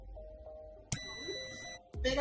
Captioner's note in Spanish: sonido: piiiii